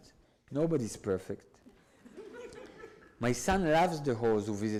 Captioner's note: audience laughs